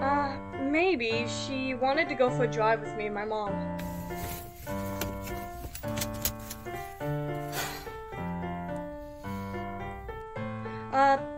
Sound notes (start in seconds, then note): 7.4 sighs